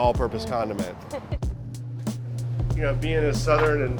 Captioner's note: laughs